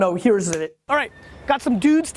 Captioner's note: snaps